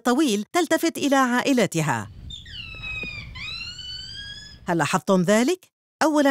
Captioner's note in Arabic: صوت صياح القردة